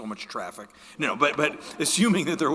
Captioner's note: audience laughing